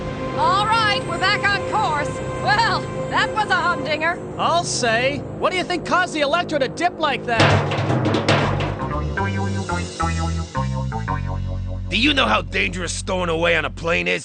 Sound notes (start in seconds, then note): 7.4 clunking